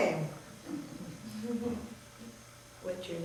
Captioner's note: everyone chuckling